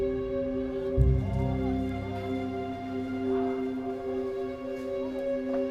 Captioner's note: voices chatting in distance